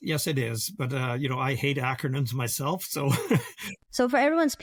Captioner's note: laughs